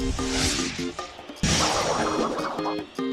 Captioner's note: whooshing